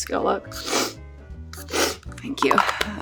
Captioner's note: nose sniffing